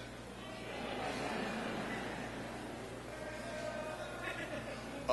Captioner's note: people laughing